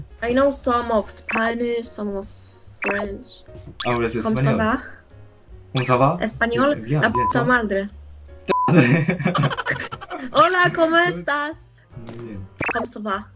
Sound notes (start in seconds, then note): 3.5 Spanish; 6.8 Spanish; 10.1 Spanish